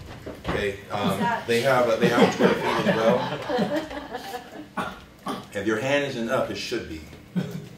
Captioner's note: laughter